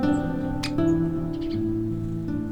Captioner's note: woodpecker chirping